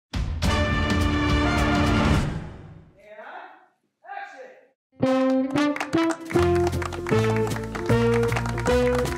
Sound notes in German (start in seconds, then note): 0.3 Dynamische Musik; 5.0 Neugierig-verspielte Musik; 7.5 Zaghafter Applaus